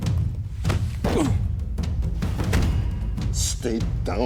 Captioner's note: Benson grunting